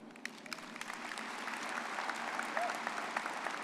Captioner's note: all applauding